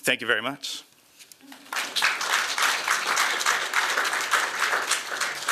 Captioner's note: applause